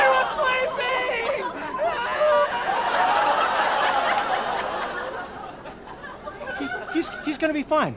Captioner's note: screams